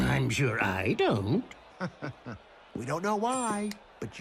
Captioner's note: chuckles